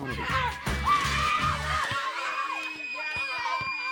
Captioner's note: children shouting